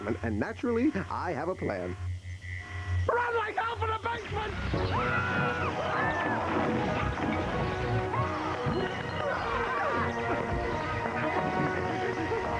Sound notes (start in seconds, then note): 5.7 all yelling